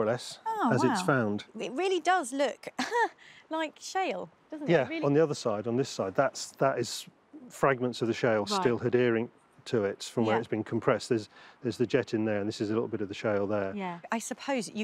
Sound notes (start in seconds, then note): 6.0 laughs